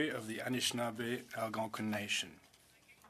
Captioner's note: speaking French